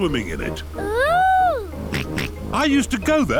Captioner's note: snorts